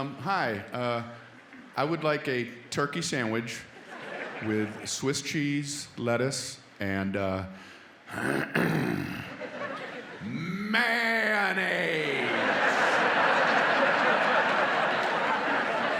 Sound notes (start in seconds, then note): 8.1 grunts